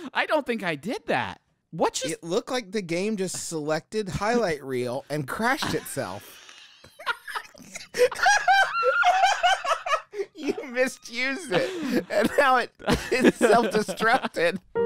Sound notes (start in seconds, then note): 6.7 both laughing; 14.6 sad music